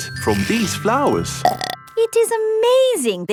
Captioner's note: burps